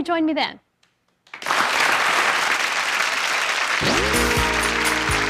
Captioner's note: audience applause